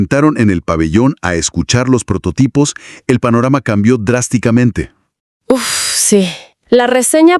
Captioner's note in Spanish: suspiro